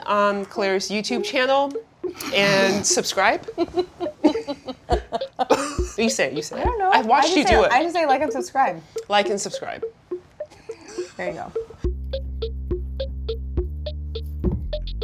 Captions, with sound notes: on Claire's YouTube channel. (snorting) And subscribe? (laughing) (playful upbeat music) Well you say it. You say it. - I don't know. - I've watched you do it. - I just say like and subscribe. - Like and subscribe. - There you go.